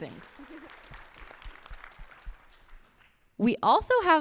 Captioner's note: audience applauds